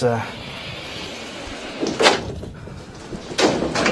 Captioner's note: whiteboard moves